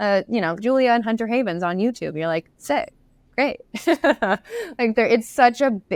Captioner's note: laughs